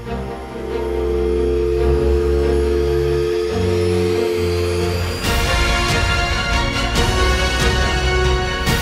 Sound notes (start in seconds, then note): 0.1 dial tone